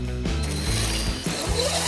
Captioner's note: zooom